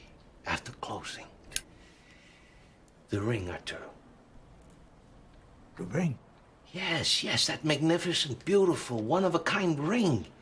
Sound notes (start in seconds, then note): 1.8 cigarette lighter